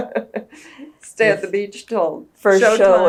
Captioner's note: laughs